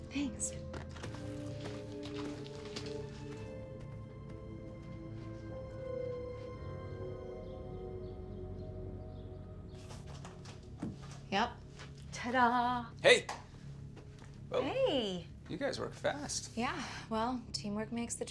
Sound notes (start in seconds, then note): 0.7 slow soft music; 7.3 birds chirping